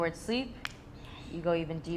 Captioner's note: fingers snapping